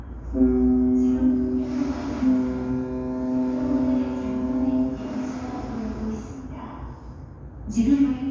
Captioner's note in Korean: 뱃고동 소리